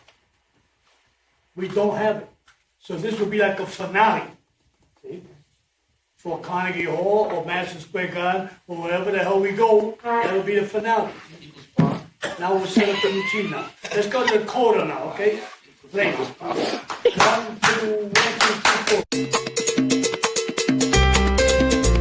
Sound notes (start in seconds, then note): 12.7 laughter; 19.1 instrumental music